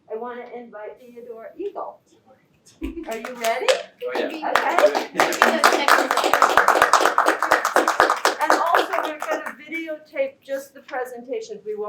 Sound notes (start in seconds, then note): 6.0 applause